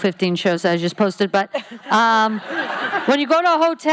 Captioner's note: laughing